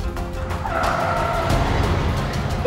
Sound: tyre screeches

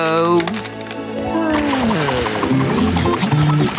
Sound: sighing

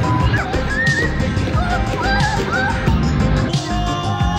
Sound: children exclaiming; people exclaiming

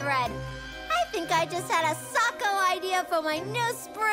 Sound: none

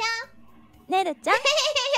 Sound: laughing

